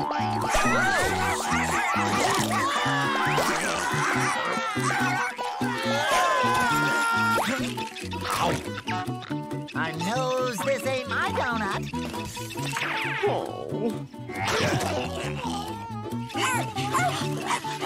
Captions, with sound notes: Whoa! [crying] [barking] Spot! I nose this ain't my doughnut. Oh. [barking]